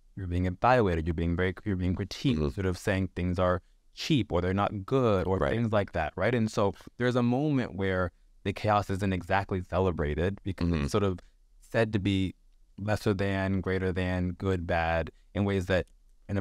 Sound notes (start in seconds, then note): none